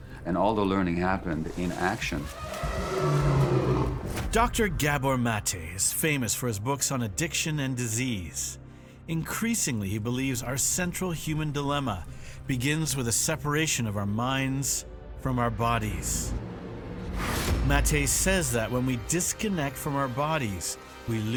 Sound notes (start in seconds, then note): 1.6 animals bellowing